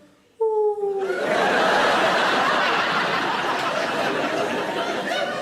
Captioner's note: audience laughing